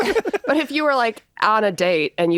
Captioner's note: laughing